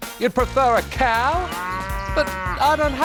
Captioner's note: mooing